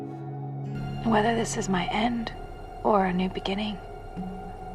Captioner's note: voiceover